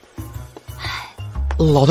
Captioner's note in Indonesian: Menghela napas